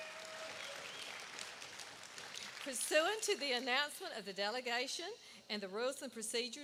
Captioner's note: applause